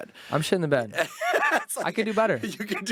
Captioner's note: laughing